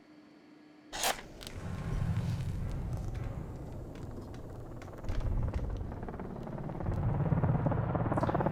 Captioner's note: match striking, helicopters and gunfire